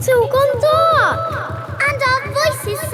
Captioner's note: echoes